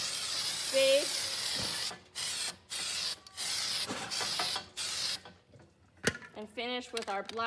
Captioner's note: spraying noises